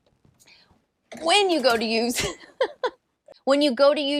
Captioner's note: laughs